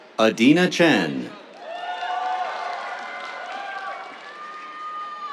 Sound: cheers, applause

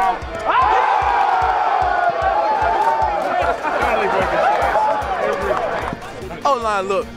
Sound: cheering

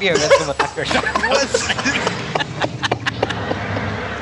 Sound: laughing

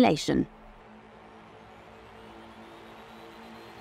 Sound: car whining

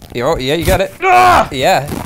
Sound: grunts

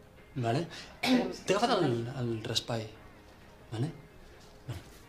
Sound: clears her throat

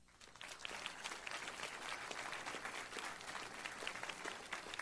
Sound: audience applauding

